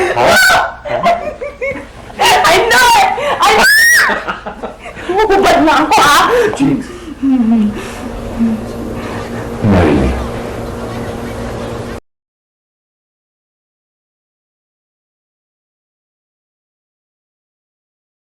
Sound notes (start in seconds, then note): 1.1 laughs; 2.7 shrieks; 3.7 laughs; 7.5 laughs